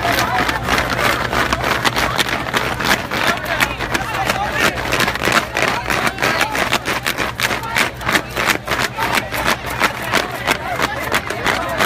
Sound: repeated sounds of fans clapping

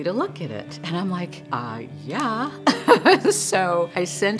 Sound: laughing

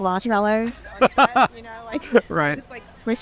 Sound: laughter

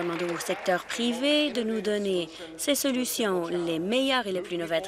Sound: applause

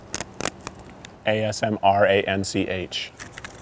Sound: sound of wrapper opening

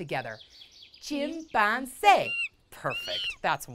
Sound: chimpanzee calls

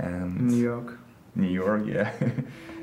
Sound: laughing

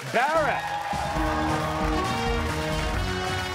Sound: cheers and applause

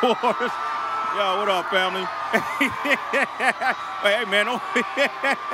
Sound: laughs

